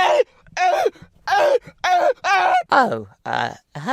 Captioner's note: sounds of death